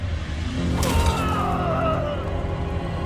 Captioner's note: thud